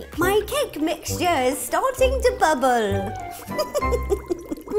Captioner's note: in witch-like voice; witchy giggle